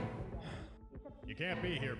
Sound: mercenary sighs

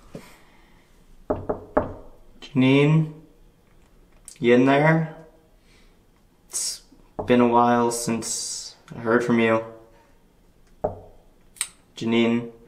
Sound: knocking

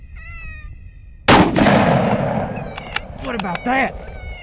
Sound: gunshot

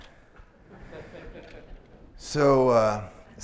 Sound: laughter

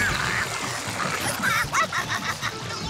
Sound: laughing

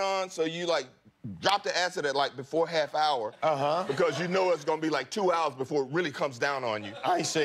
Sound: laughter

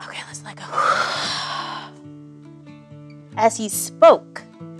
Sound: exhales

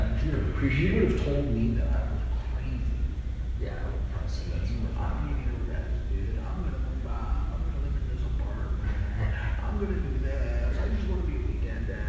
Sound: laughing

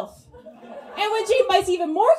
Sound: audience laughs

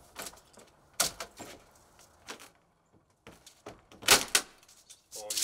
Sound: plank creaks; plank crunches

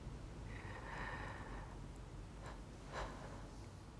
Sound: laboured breathing

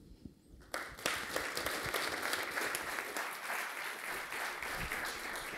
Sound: applause

